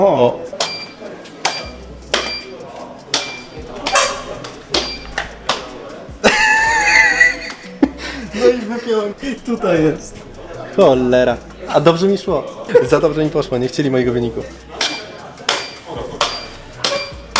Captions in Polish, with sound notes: O, [śmiech] no i wypięłem. Tutaj jest. Cholera, a dobrze mi szło. Za dobrze mi poszło. Nie chcieli mojego wyniku.